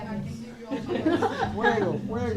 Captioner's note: models laughing